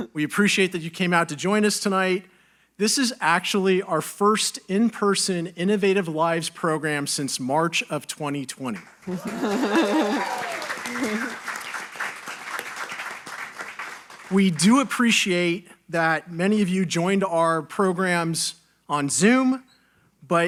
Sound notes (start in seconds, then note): 8.8 audience applauding; 9.0 audience cheering